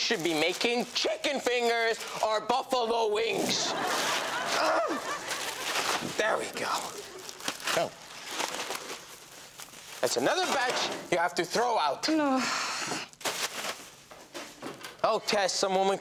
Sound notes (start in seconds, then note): 3.4 audience laughs; 4.8 groans; 12.4 Robyn groans